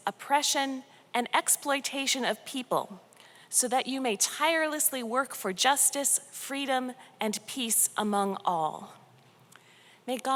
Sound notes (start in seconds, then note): none